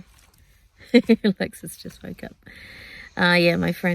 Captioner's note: chuckles